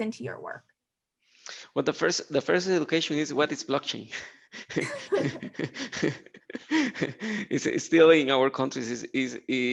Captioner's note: chuckling